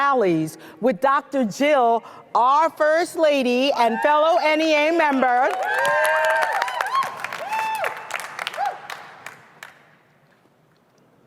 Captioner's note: cheering